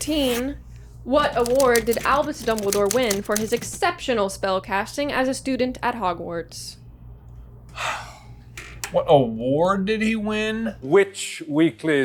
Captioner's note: deep sigh